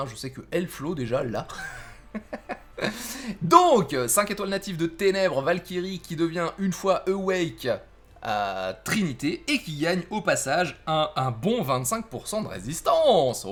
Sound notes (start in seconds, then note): 1.5 laught